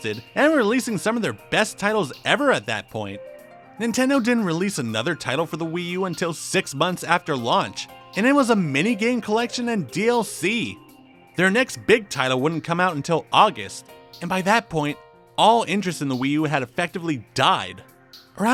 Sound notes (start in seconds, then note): none